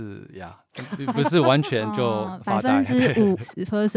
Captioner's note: haha